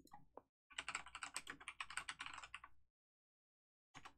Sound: keyboard clicking noises

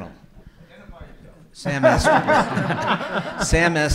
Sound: everyone laughing

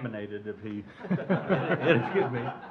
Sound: crowd laughs

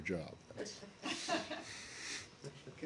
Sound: laughter

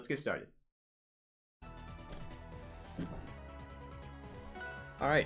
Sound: game audio played in background

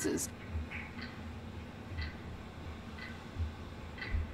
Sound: clock ticking

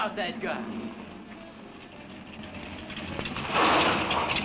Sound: engine rumbling

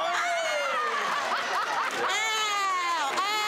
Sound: applause; laughter

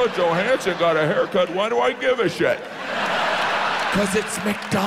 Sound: audience laughs

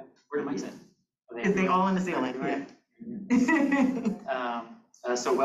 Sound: chuckles

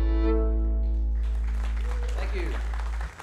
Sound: audience applauding

